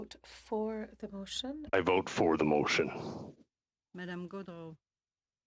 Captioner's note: speaking French